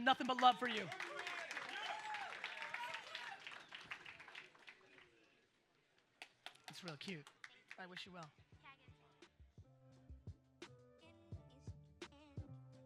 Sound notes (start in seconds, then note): 1.6 audience applauds; 8.2 relaxed hip hop music